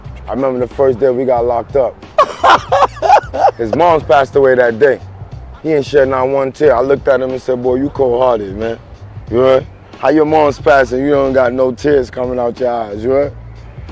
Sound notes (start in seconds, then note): 2.2 laughing